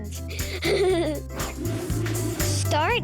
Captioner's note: giggles